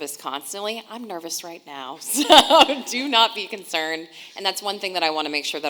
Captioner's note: laughing